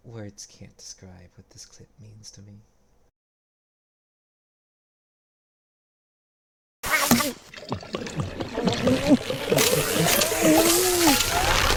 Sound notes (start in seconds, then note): 7.4 glug glug glug glug